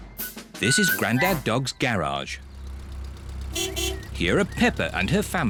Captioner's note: horn beeps